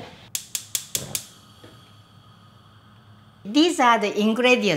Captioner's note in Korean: 가스렌지 켜는 소리